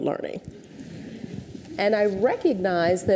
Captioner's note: audience chuckles